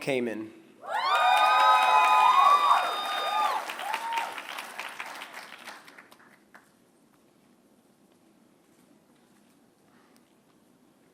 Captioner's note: applause